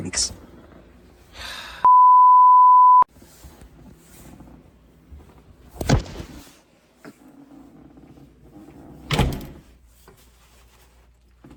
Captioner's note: door slams shut